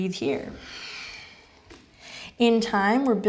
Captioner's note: inhales